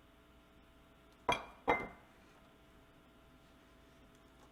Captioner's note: plate clinks